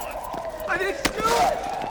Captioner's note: siren